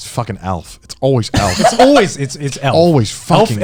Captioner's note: chuckling